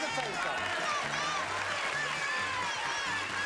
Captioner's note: applause